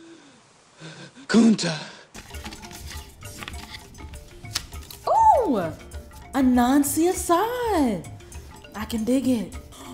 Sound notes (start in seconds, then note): 2.1 papers rustle; 2.2 smooth music